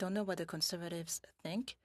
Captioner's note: speaking French